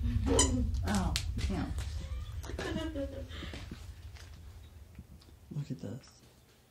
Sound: laughs

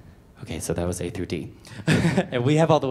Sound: laughs

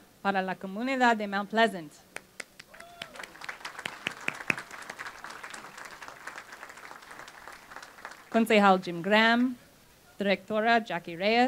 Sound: speaking spanish

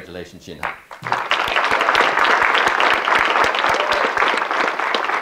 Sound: audience clapping

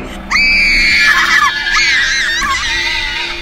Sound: screaming

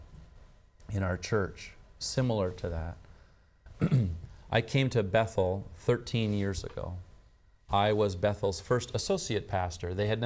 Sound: clears throat

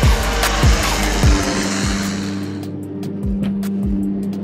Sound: upbeat music; aeroplane roaring

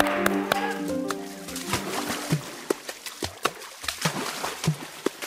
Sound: water splashing

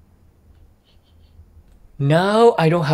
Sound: sniffs

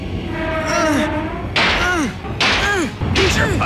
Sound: clank; Hardtop continues grunting

